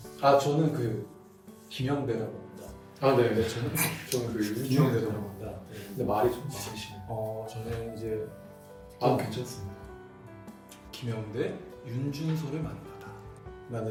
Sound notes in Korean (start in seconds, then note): 3.4 웃음